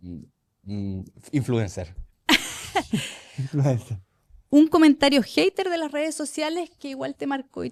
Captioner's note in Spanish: risas